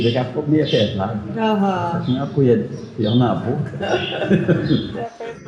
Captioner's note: laughter